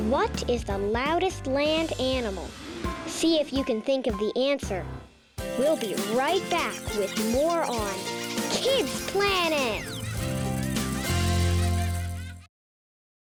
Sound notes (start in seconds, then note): 5.4 bright music; 9.0 animals squeaking; 10.2 children laughing